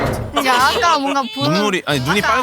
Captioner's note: sob